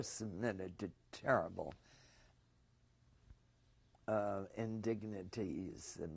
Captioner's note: pauses for 3 seconds